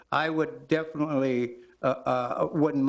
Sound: none

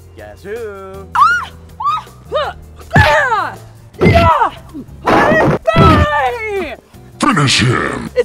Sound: screams

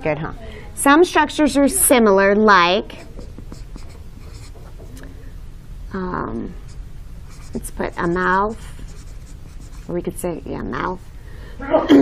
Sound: student sneeze

